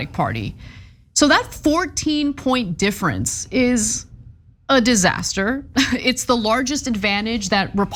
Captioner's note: laugh